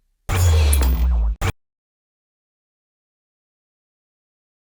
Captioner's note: electronic buzzing